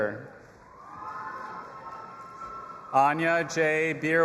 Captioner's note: audience applauding and cheering